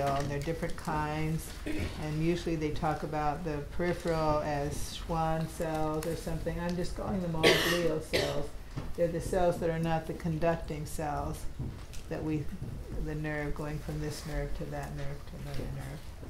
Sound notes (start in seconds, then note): 1.6 attendee clears throat; 7.4 attendee coughing